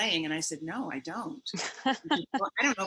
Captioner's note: laughs